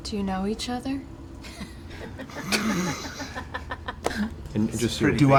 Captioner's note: laughter